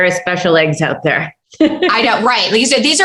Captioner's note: laughter